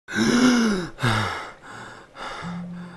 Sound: gasps for breath

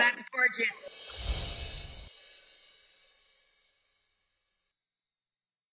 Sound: windchimes ring

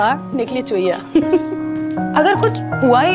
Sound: giggles

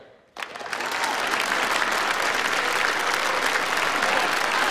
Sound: applause

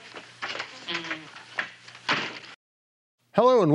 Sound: door clattering

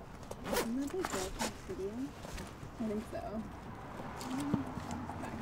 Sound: faint whispering

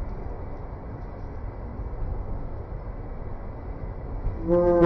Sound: horn blaring

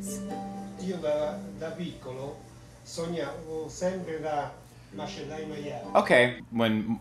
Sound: speaking Italian

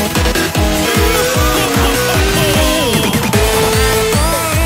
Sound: Majin laughs

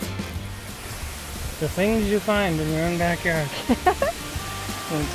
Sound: laughs

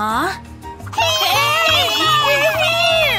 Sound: shouting

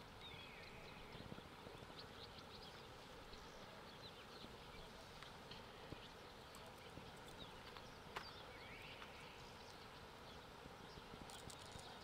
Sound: birds singing

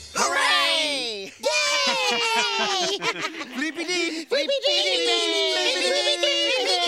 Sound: cheering

